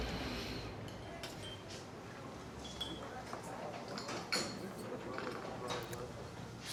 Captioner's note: dishes clattering; glasses clinking